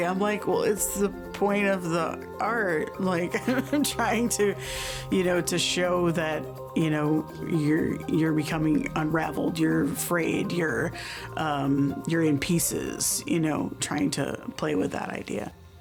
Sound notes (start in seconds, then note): 3.4 laughs